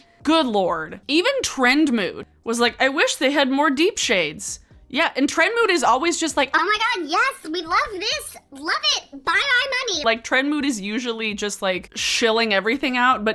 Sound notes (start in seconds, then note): none